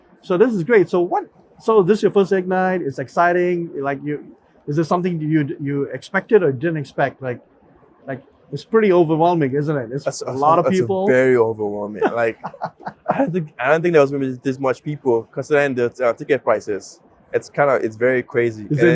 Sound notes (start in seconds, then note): 11.8 laughs